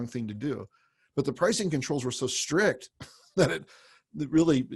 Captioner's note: laughs